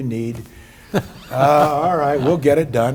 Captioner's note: laughs